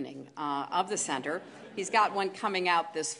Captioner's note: laughter